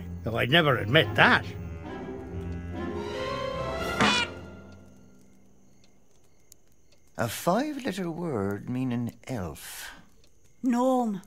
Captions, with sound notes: though I'd never admit that. (playful honk) - A five letter word meaning elf. - Gnome